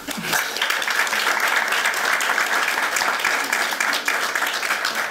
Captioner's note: applause